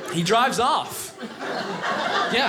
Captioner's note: audience laughing